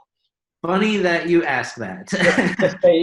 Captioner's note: laughs